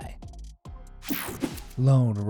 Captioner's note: screen whooshing